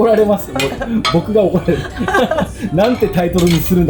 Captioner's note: laughs